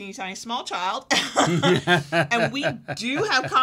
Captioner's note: laughing